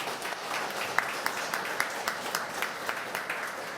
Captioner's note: applause